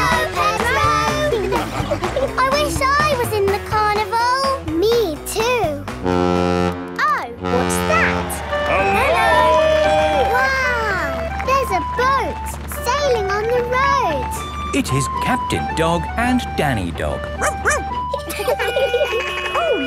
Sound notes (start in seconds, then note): 7.4 horn bellowing; 17.0 sirens sounding; 17.4 barks; 17.4 laughing